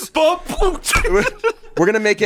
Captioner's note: laughs